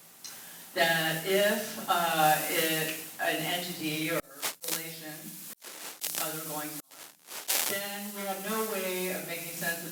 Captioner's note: static